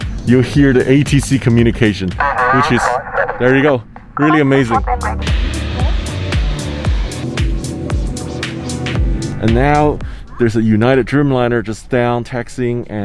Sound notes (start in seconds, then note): 2.2 radio chattering